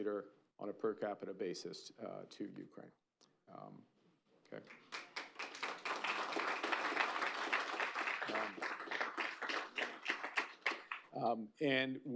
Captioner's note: applause